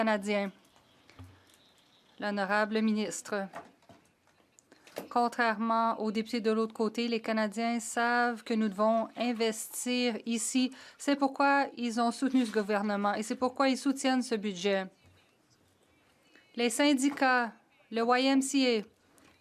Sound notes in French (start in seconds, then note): 8.7 voix de l'interprète